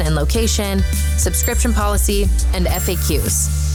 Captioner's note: bell dinging